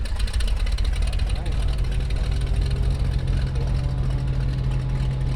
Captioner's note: plane engine humming